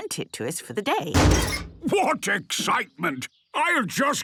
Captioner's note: metallic door bursting